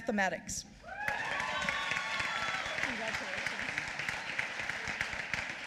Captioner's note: applause